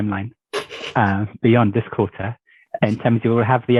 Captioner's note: somebody chuckles